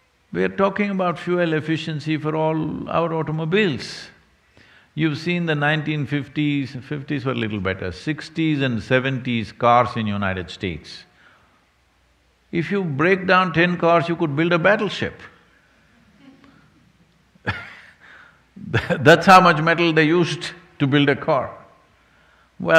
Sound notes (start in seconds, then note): 16.1 laughs